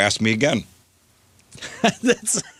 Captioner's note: laughing